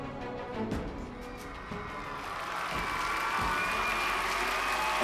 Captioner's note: cheering, whooping